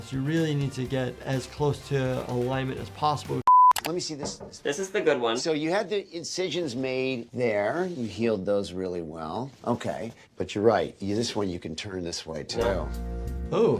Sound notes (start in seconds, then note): 3.4 screen beeping